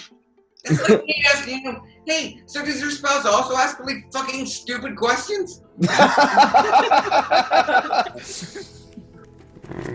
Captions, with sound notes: It's like me asking them, "Hey, so does your spouse also ask really fucking stupid questions?". (crowd laughs)